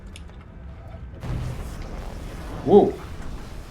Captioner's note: electrical crackling